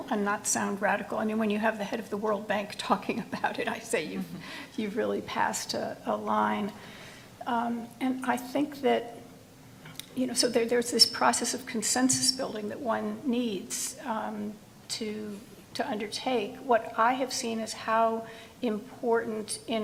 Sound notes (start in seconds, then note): 4.1 laughs